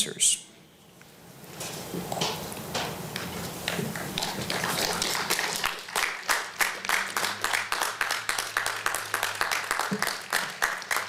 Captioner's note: applause